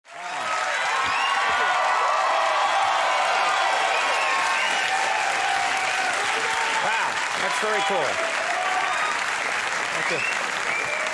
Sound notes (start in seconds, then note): 0.3 audience cheers